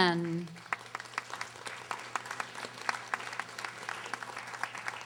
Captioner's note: audience applauding